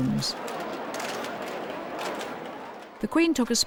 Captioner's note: cameras clicking